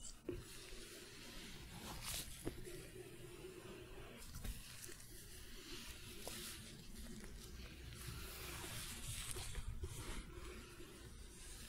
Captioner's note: glove sounds, stroking